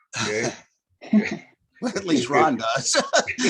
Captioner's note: laughter